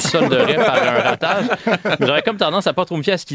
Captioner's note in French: rires